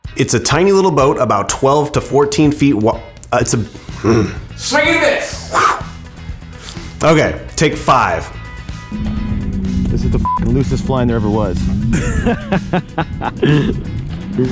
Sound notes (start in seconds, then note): 3.2 stumbles words; 5.4 whooshing sound; 10.2 beep; 11.5 laughing